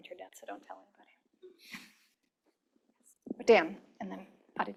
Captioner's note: chuckling